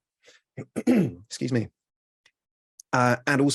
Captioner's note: clears throat